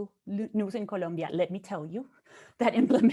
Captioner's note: chuckles